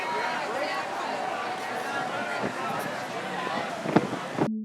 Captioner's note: group chattering